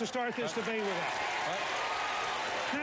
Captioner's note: applause